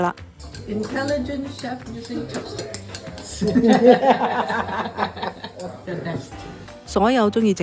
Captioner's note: both laughing